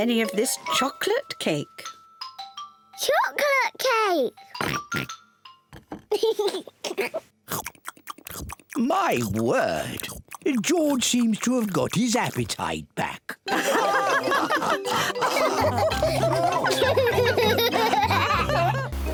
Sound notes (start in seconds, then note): 4.6 oinks; 6.1 giggles; 13.5 all laughing; 16.7 laughs